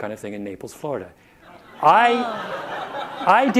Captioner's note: audience laughter